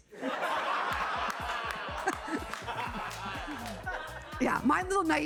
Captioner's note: audience laughing